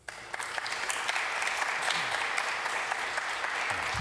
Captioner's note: applause